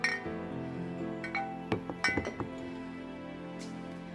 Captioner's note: glass clinking; gentle music